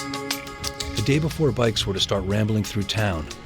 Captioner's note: voiceover